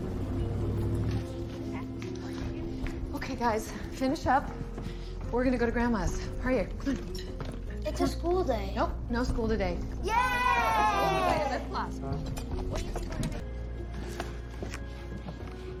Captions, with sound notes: Okay guys. Finish up. We're going to go to grandma's. Hurry up, come on. It's a school day. Nope, no school today. [cheering] Yay! Okay, let's go. Here we go baby.